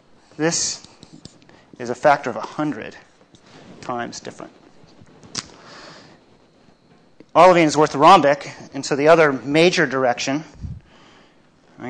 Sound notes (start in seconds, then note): none